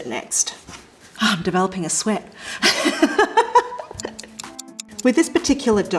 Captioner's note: chuckles